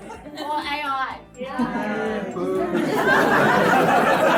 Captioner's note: crowd murmors